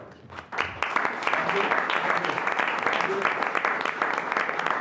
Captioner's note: applause